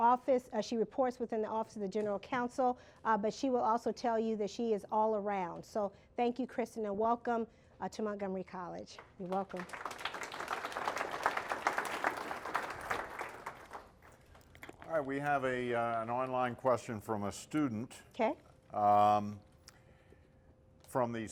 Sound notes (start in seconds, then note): 8.9 applause